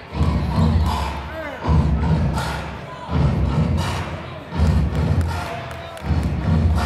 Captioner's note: clapping; stomping